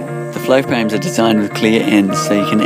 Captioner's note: voiceover